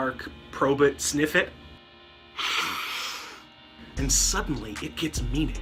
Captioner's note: sniff